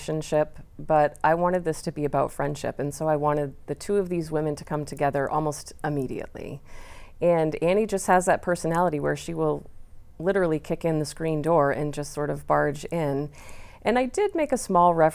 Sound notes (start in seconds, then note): none